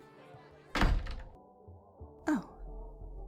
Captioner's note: door opens